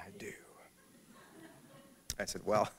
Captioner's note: laughter